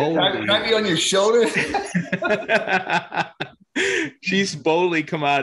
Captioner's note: both laugh hard